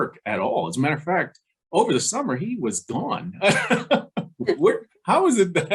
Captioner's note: laughing